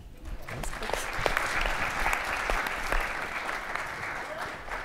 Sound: audience applauding

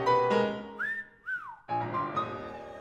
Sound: bright piano music; cat-calling whistling; bright, whimsical piano music

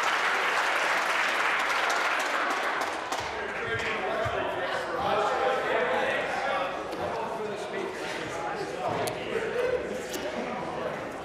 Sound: applause

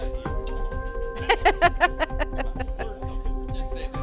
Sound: laughing

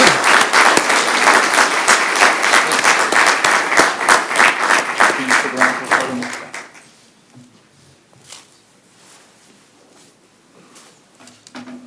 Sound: applause

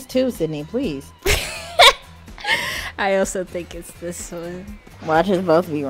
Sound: laughs

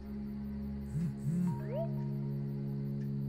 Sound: phone buzzes, chirps

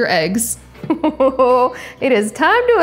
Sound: chuckles

